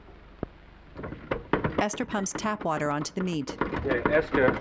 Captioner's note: pump squeaking